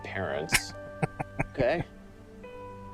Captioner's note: chuckling